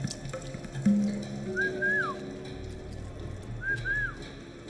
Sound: man whistles

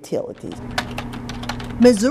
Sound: keyboard clacking

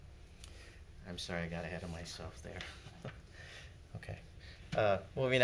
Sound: laughs

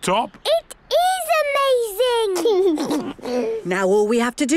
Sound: George giggles

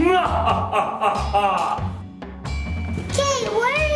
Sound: Dracula laughing

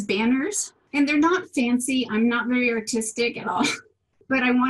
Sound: laughs

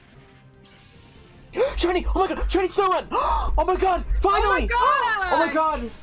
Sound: gasp

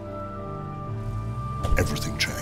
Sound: soft music; car door banging

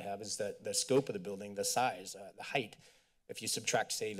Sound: none

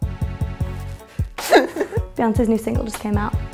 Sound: laughter

